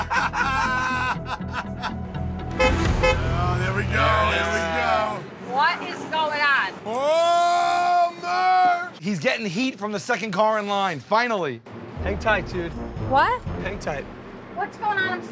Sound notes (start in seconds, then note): 0.0 laughter; 2.1 horn honks